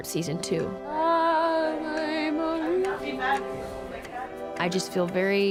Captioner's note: indistinct background chatter